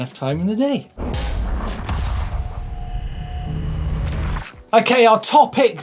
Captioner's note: digital buzzing